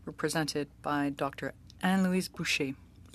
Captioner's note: speaking French